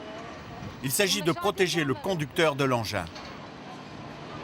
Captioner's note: Hebrew spoken audio